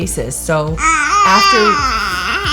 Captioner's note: baby cooing